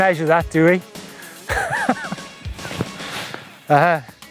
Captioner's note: laughing